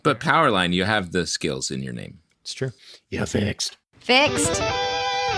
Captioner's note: growly voice; guitar riff